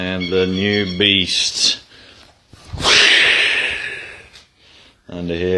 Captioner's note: dramatic whoosh noise